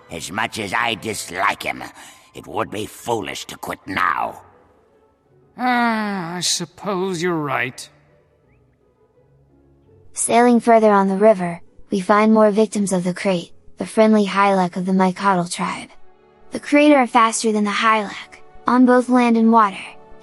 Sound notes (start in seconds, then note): 5.6 sigh